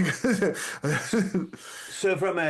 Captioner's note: laughing